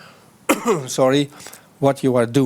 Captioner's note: coughs